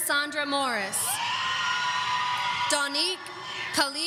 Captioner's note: audience cheering